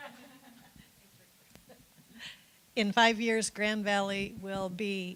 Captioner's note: laughter